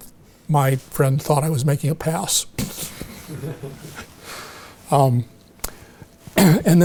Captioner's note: audience chuckling